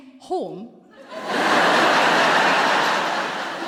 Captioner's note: laughter